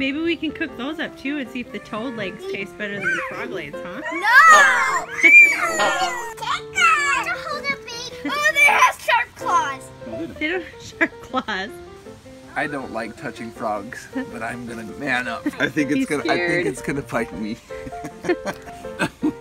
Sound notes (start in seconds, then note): 10.6 laughter